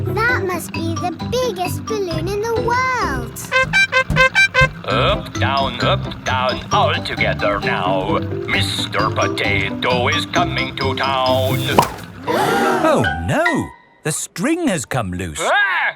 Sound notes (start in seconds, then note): 3.4 horn beeping; 12.0 all gasp